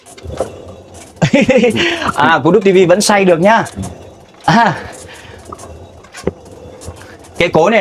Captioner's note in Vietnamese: tiếng cười